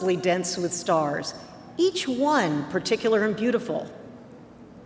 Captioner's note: none